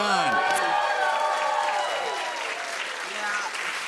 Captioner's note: cheers and applause